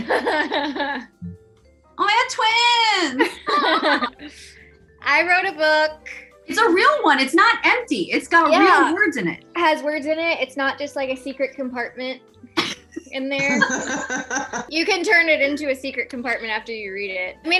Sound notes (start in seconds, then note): 0.0 laughs; 3.2 both laugh